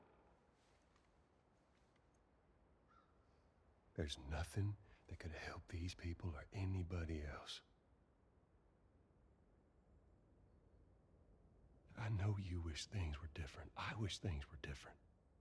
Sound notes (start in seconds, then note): none